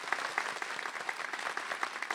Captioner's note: applause